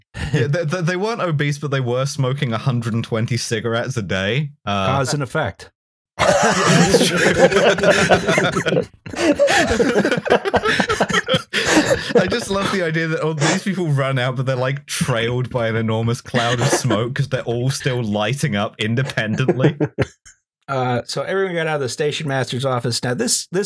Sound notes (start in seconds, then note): 6.2 laughter; 6.2 laughing; 7.9 laughter